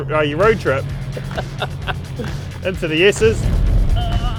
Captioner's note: laughs